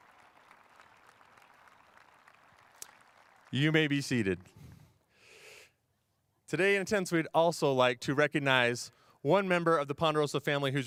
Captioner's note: cheers and applause